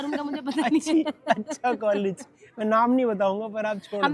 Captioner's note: laughter